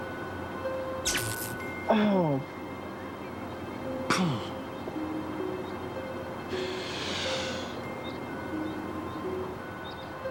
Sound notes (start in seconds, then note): 1.3 crackling